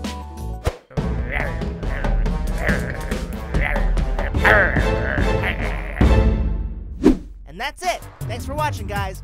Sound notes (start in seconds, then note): 0.9 growling; 6.9 air whooshing